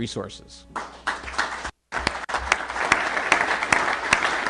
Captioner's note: applause